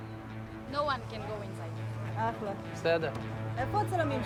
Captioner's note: speaking Hebrew